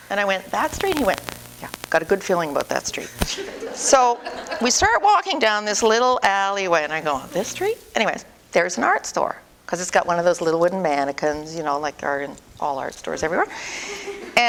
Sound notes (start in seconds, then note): 3.3 audience: Laughter